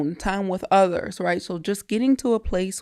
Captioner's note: none